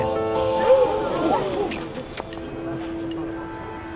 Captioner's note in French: cris d'admiration/surprise de la foule